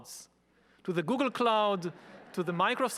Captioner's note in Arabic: الجمهور يضحك